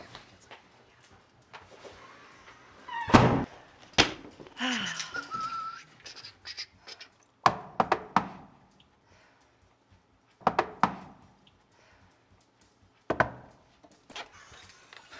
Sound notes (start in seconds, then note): 2.9 door slams; 4.6 Maha sighs; 5.0 Mr. Mannly whistling; 7.4 The Super knocking